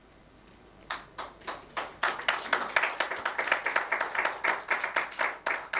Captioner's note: attendees applauding